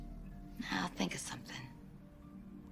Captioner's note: none